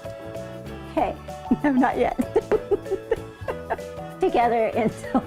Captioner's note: laughing